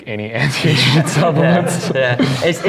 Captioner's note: laughs